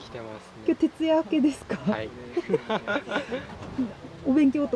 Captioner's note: laughs